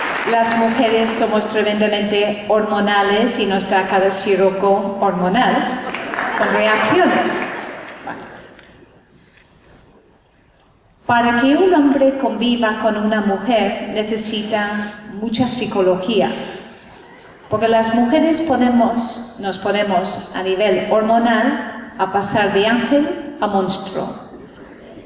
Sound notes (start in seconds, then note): 5.8 laughter